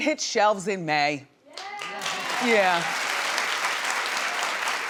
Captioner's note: audience cheering